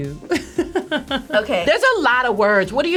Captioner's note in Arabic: تضحك